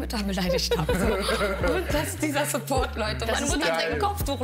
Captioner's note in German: Gelächter